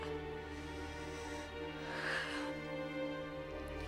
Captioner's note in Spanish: suspirando